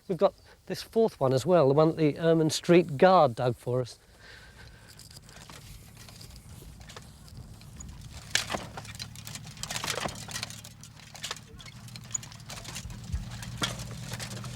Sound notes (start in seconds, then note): 8.6 metal rattling; 8.6 tools scraping